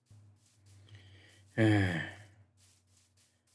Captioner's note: sigh